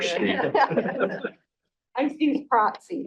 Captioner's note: board members laughing